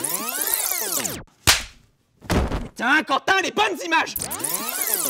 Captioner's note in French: claque